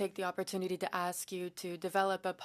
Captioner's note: speaking in French